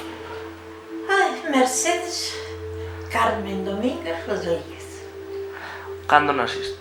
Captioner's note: sighs